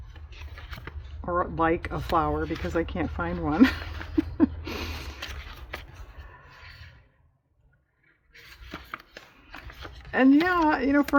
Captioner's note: laughs